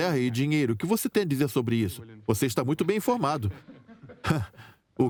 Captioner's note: laughs